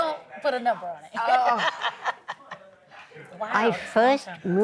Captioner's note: laughter